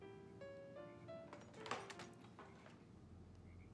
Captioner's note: clattering